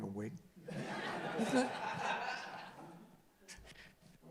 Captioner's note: laughing